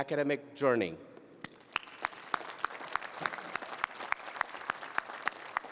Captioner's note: applause